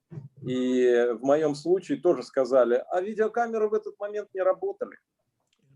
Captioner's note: speaking Russian language